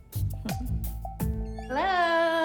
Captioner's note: chuckles